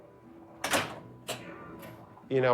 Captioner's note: single flipper hit